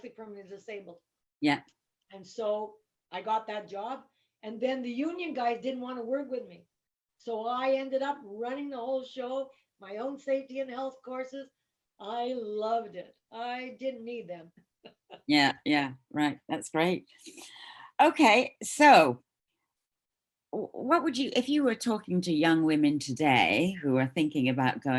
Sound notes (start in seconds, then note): 14.8 chuckles